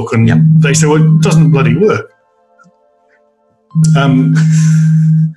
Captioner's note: cell phone rings